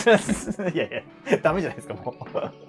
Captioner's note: laughing